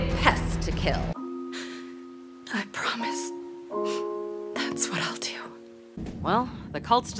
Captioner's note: breath